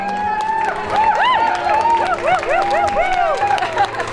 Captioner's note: crowd cheering